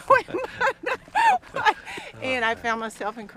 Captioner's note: laughs